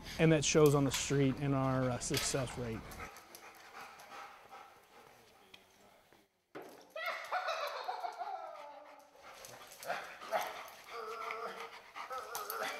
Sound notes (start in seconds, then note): 6.9 laughing; 10.8 imitating growling